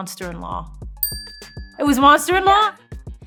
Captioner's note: bell dings